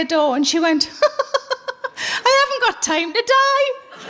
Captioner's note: laughing